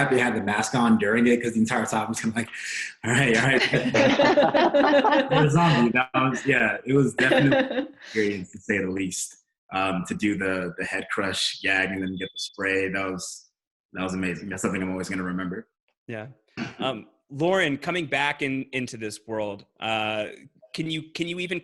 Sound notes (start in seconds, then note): 3.0 people laughing